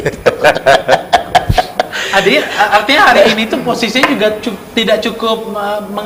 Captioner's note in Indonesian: tertawa